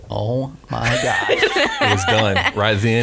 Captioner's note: laughs